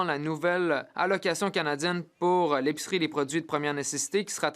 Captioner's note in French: voix de l'interprète